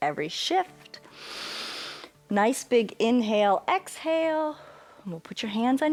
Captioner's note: inhales